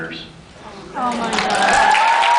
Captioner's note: cheers, applauds